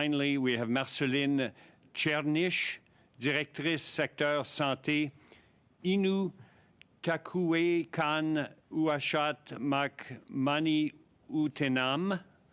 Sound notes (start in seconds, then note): 9.5 speaking French